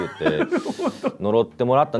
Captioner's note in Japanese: 笑い